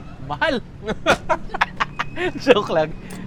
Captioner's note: laughs